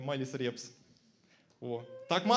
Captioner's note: silence